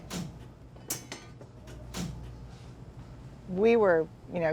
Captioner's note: light switches clicking